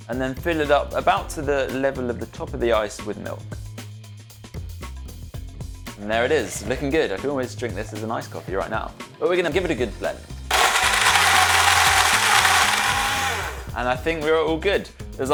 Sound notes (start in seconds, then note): 10.5 blender whirring